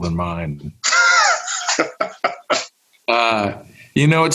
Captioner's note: laughs